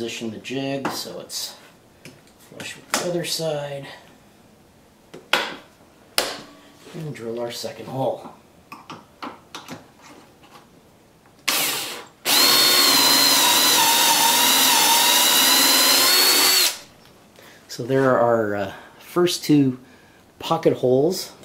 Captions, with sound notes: Reposition the jig so it's flush with the other side. [clamp snaps] And drill our second hole. [drill whirring] There're our first two pocket holes.